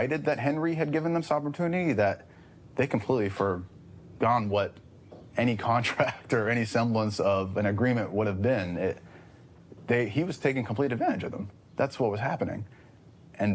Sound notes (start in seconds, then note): none